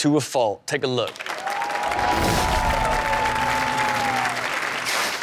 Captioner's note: audience cheers and applauds